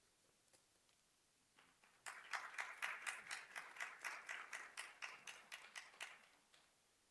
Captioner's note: applause